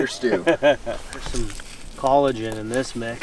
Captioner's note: laughing